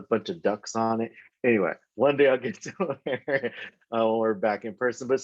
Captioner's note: laughs